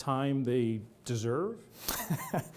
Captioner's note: laughter